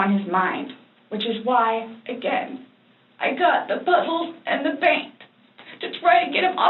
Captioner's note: tearful